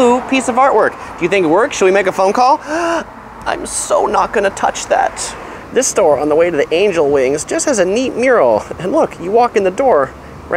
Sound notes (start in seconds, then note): 2.6 he gasps